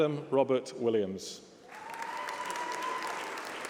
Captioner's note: applause